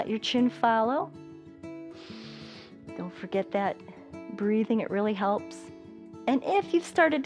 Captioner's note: inhales